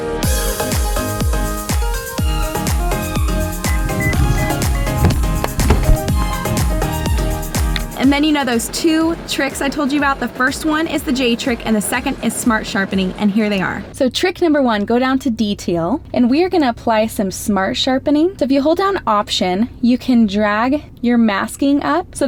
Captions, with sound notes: (car beeping) (phone bouncing) And then you know those two tricks I told you about? The first one is the j trick. And the second is smart sharpening, and here they are. So trick number one, go down to detail and we're gonna apply some smart sharpening. So if you hold down option, you can drag your masking up